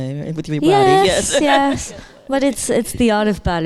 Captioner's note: laughing